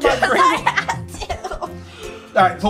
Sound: laughs

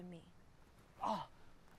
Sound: groaning

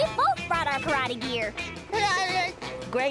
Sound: laughing

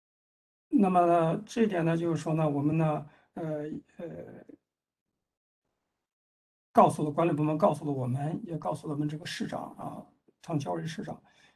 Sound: speaks in Mandarin

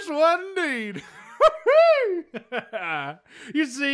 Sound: chuckles

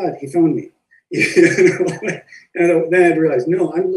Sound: laughs

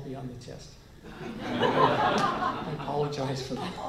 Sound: laughter

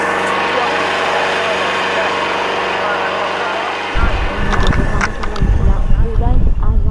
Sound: outboard motor roaring

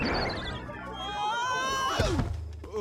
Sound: screaming

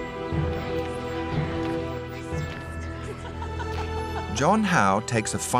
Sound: muffled voices and laughter

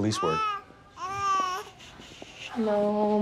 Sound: baby cooing

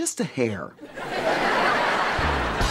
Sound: laughing

